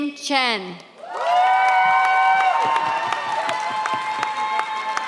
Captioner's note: audience cheers